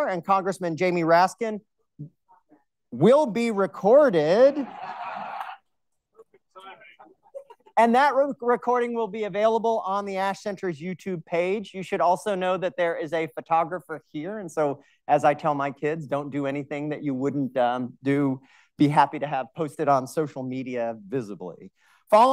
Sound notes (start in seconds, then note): 4.4 audience laughing